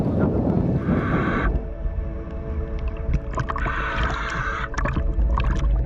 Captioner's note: breathing through regulator